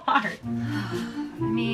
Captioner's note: sighs